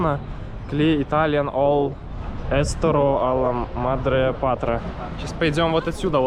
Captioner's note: something in Italian